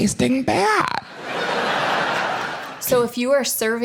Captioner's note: audience laughing